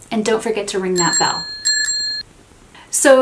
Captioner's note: bell rings